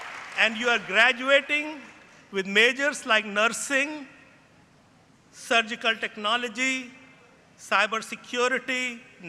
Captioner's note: cheering; applause